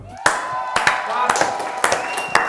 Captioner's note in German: Jubel, Applaus